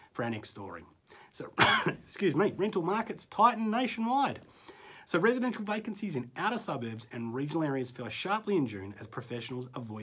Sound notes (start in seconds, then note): 1.5 coughs